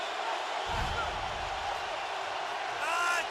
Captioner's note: swoosh